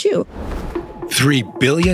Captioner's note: screen whooshes